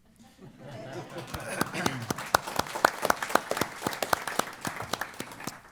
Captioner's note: applause